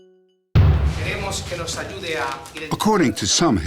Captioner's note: speaking spanish